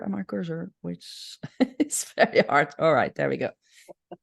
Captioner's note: laughs